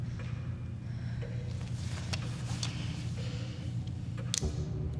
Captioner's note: clock ticking